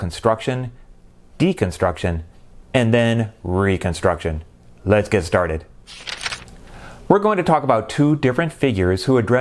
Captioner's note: page turning